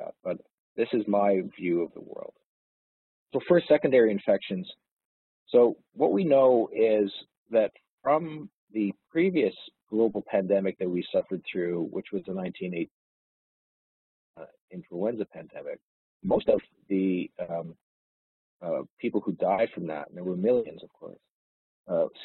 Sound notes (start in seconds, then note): 12.7 audio distorts